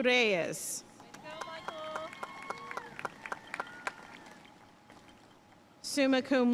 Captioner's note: audience cheering and applauding